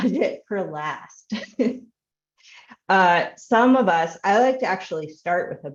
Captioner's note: chuckling